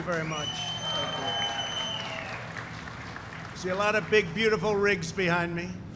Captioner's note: applause